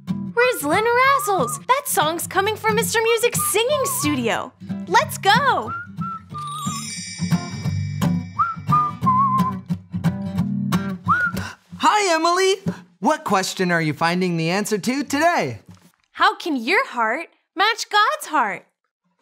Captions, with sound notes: (someone whistling) Rizzlin razzles. That song is coming from Mr. Music's singing studio. Let's go. (bright music) (Mr. Music whistling) - Hi, Emily. What question are you finding the answer to today? - How can your heart match God's heart?